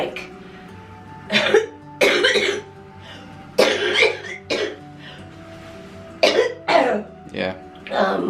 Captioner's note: coughing